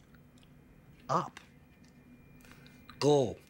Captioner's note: makes "op" sound